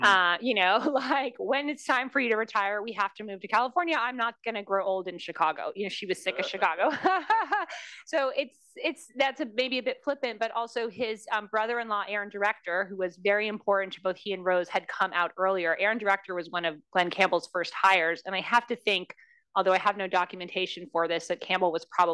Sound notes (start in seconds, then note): 6.2 laugh